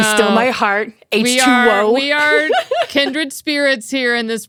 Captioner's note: laughs